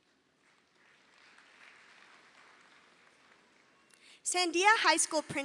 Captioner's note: audience applauding